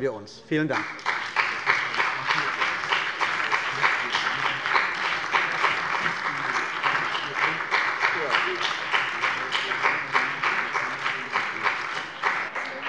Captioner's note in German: Beifall bei der CDU und dem BÜNDNIS 90/DIE GRÜNEN